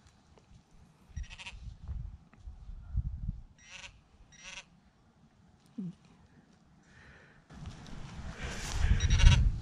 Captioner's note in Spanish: sonido de pin pointer